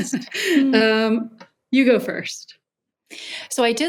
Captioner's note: laughs